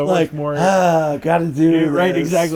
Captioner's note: sighing